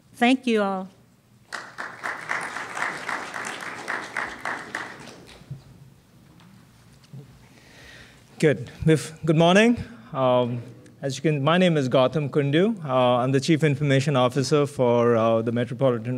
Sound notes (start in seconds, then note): 3.3 applause